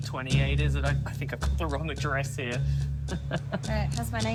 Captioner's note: chuckles